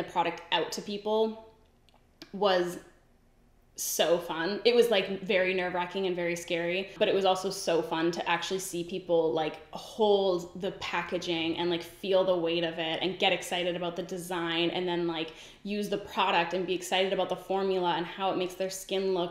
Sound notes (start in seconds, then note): none